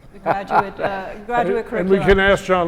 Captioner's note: laugh